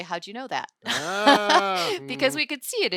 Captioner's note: laughing